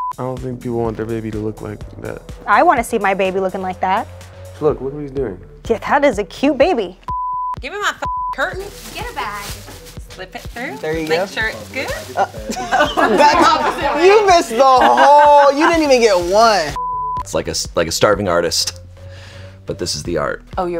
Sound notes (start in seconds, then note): 8.0 beep; 12.3 laughs